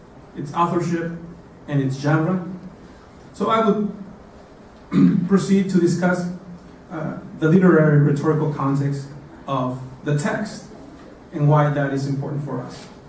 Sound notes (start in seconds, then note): 4.9 cough